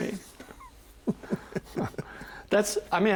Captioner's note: both chuckling